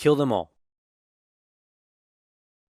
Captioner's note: silence